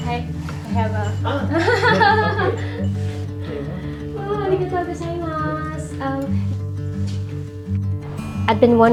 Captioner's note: laughing